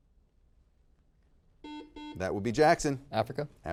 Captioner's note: buzzer beeping